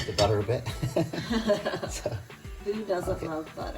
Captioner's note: laughing